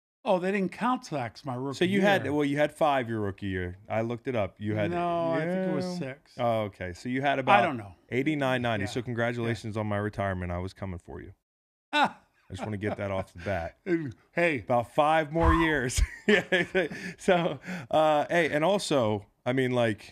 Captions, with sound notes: - Oh, they didn't count sacks my rookie year. - So you had, well, you had five your rookie year, I looked it up, you had-- - No, I think it was six. - Okay, so you had a-- - I don't know. - '89, '90, so congratulations on my retirement, I was coming for you. (Howie laughs) I just want to get that off the bat. - Hey. - About five more years! (laughs) - So-- - Hey, and also, I mean,